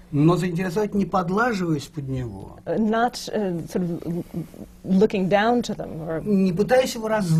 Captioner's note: foreign language not transcribed